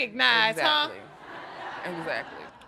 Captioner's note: audience laughing